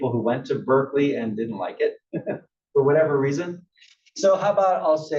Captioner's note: laugh